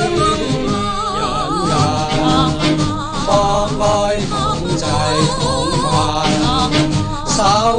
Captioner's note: man voice